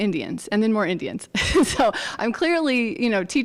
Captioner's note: chuckles